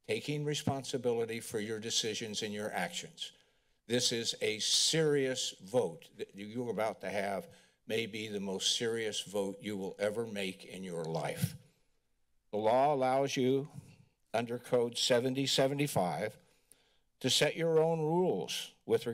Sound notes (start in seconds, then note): none